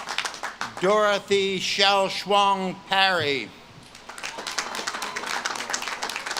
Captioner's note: audience claps and cheers